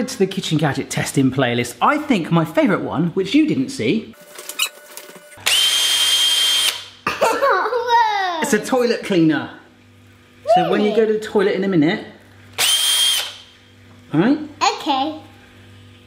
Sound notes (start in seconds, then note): 5.4 whirring; 5.4 laughing; 12.5 whirring